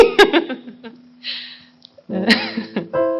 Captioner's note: laughter